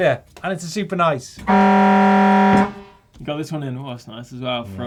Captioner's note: buzzer